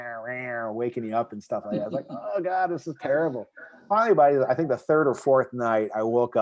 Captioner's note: laughing